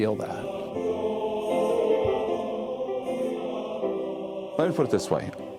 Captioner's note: men vocalizing